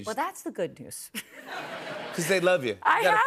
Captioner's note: laughter